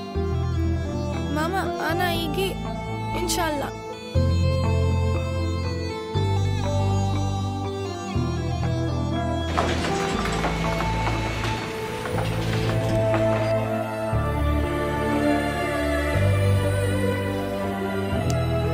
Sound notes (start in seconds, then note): 1.3 Speaking in foreign language